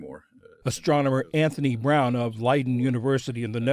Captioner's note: voice-over